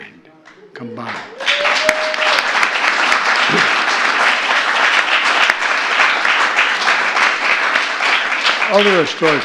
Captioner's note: applause